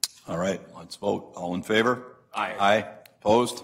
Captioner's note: multiple voices